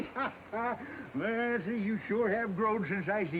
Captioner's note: Windy laughs